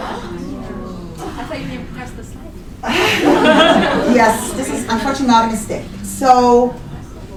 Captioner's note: audience gasps